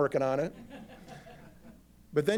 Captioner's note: laughter